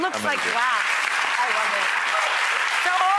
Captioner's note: audience applauds